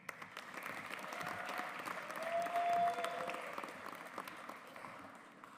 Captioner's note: audience applauds